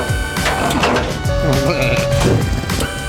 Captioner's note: snoring